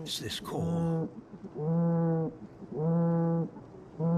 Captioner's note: hum